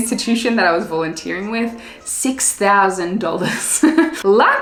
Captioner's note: laughs